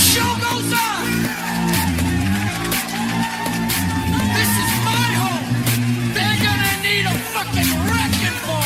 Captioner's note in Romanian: Aplauze